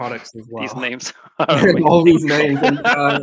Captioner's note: laughs